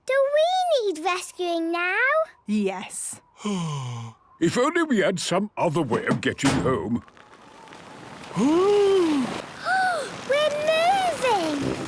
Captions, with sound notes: - Do we need rescuing now? - Yes. - Oh... If only we had some other way of getting home... - (clangs) - (sliding) - Oooh! - (Peppa gasps) We're moving!